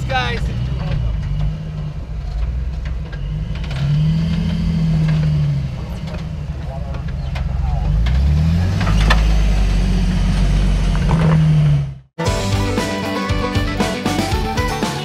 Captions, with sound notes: - Thanks, guys! - You're welcome. (engine revving) (bright music)